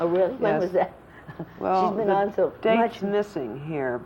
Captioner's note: laughs